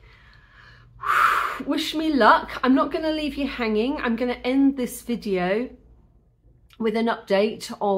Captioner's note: deep exhale